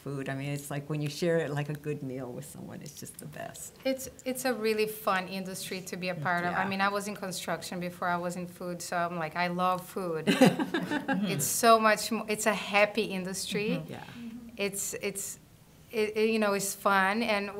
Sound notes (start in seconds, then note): 10.2 laughter